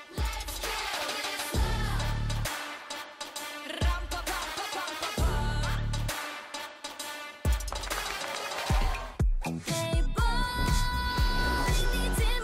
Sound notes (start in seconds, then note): 7.8 crowd cheering